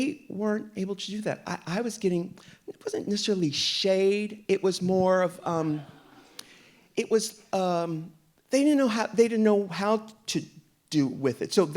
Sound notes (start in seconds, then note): 5.4 audience laughing